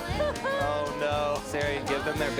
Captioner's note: cries out